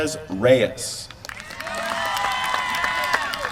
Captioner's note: applause